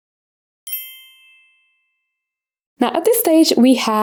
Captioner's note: bells chiming